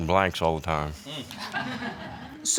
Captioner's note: audience laughing